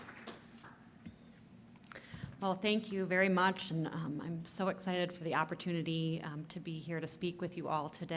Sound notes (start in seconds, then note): 0.0 applause